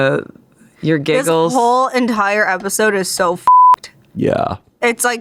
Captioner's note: beep